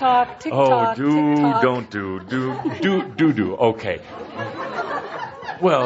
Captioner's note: more laughter